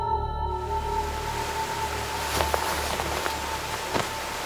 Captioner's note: water rushing